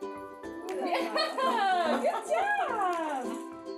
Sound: laughing

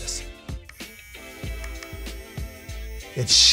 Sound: vibrating

